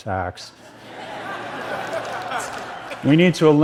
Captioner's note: laughter